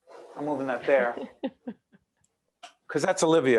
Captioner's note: laughing